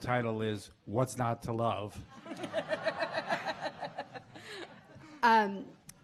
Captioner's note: laughing